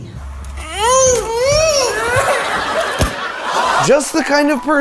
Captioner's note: children shrieking